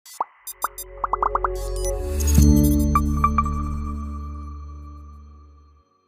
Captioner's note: bright music; bubbles pop and beep